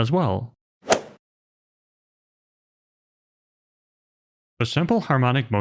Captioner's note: golf ball hit sound effect